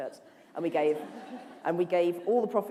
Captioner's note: laughter